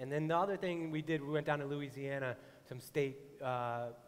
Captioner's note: none